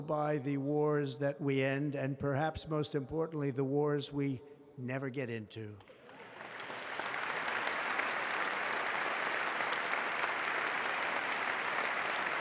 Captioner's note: applause